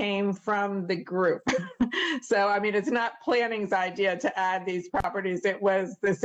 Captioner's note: laughter